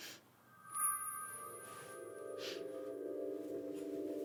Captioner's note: sniffing